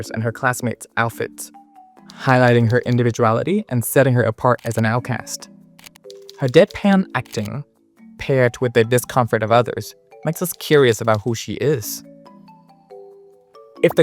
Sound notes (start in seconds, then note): 7.3 emotionless